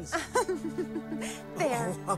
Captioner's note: she giggles